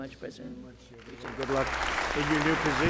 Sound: applause

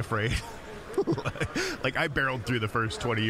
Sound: laughing

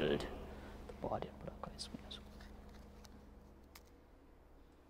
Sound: whispering

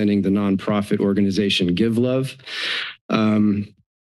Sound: inhales

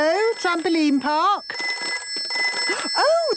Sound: phone ringing

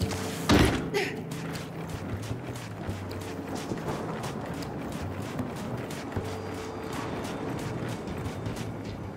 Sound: footsteps

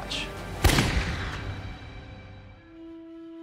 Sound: gunshot

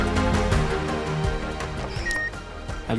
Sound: none

